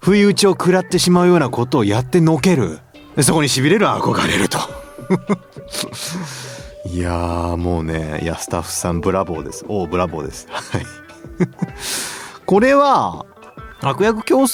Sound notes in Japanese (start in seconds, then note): 11.8 鼻息; 12.0 笑い